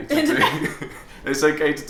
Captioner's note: laughs